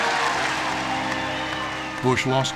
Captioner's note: cheering and applause